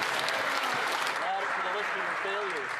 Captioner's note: some Applause